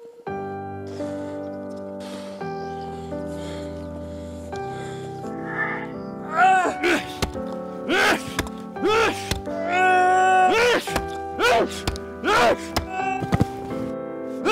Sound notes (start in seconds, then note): 0.2 joy full Music; 6.2 screaming in pain; 6.3 anger screams